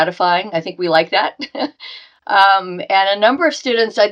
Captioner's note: chuckling